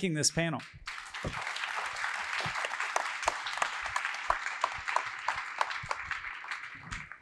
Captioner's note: applause